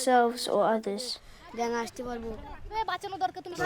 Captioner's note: foreign language